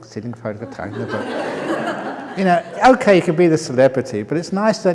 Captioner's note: laughter